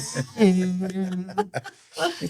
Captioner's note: laughing